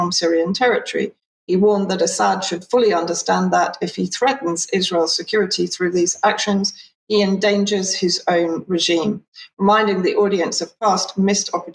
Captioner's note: speaking in Hebrew